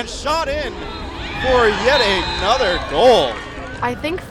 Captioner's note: whistle blowing